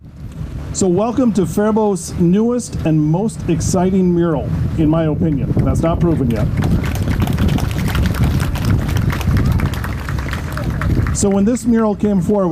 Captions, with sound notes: - So welcome to Faribault's newest and most exciting mural in my opinion. And that's not proven yet. (audience clapping) So when this mural came forward,